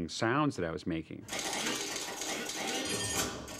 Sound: metallic clattering; servos whining

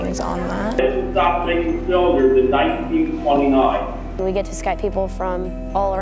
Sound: man through Skype call

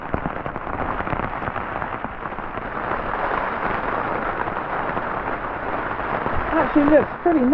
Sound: rain on tarp

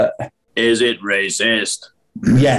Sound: deep voice; sniggering

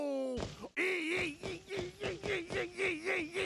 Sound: yelping

